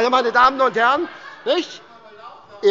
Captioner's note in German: Heiterkeit bei Abgeordneten der SPD